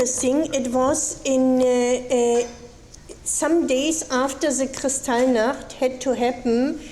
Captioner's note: speaking foreign language